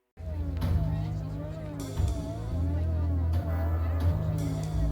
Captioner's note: crowd murmuring